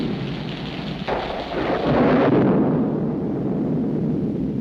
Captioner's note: thunder cracks